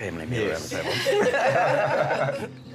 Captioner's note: all laughing